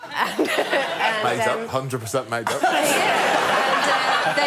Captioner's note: laughter